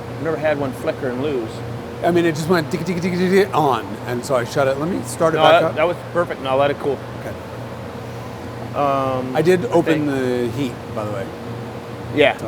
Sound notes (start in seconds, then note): 1.9 imitates engine stuttering